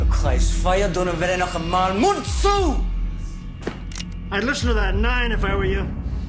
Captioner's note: Говорейки на немски